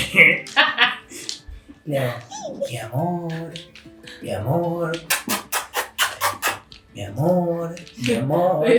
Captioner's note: kisses